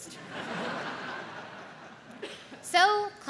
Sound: audience laughs

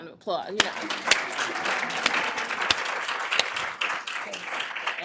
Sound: applause

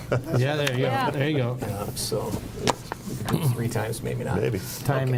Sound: mumbles

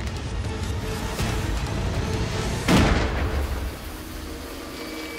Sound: gunshot

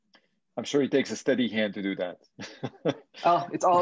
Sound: laughs

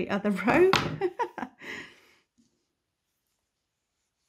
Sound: chuckles

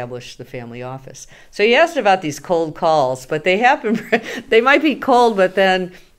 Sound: laughs

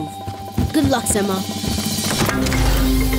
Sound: none

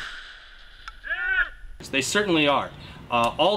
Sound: men yelling

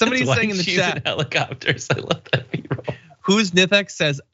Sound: laugh

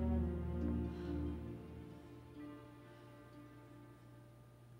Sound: Dr Barnes sighs

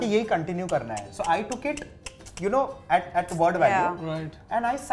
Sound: scoffs

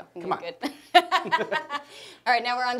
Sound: laughing

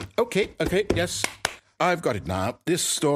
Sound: clappy clap

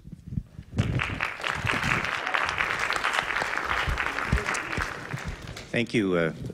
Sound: applause

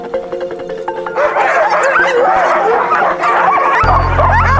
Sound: dogs barking

